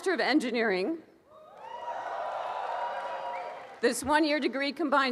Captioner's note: cheering and applause